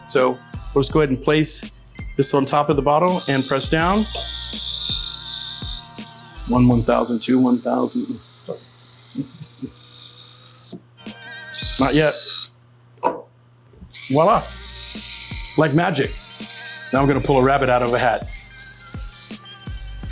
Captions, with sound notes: So we'll just go ahead and place this on top of the bottle and press down one. [corkscrew whirring] 1,001, 1,002. [corkscrew whirring] Not yet. [bottle popping] Voila, like magic. Now I'm gonna pull a rabbit out of a hat. [laughs]